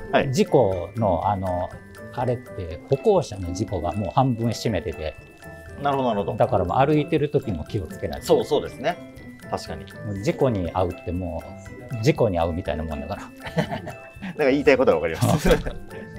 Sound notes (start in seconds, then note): 13.3 laughing